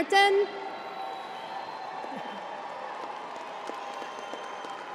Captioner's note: crowd applauding